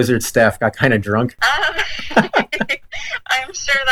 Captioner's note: both laugh